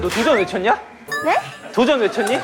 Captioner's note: in a flustered voice